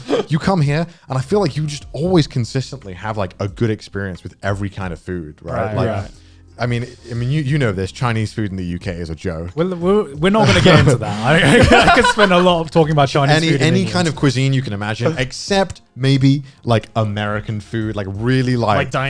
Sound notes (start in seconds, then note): 10.4 guys laughing